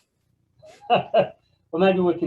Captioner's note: laughing